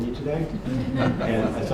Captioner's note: laughter